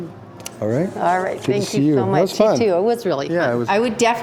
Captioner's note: kiss sound